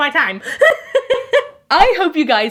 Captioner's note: laughing